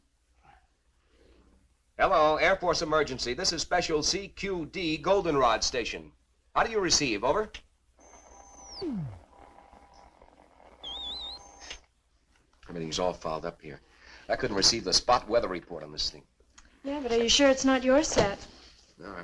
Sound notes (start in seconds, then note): 8.2 radio whistling